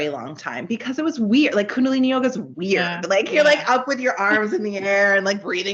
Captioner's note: giggling